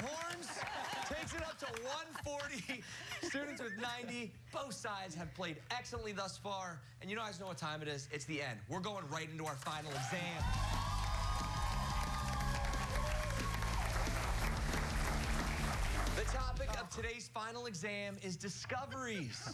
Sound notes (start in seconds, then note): 9.7 cheers and applause